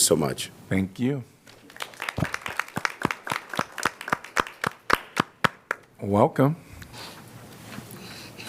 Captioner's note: applause